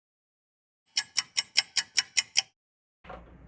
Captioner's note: ticking clock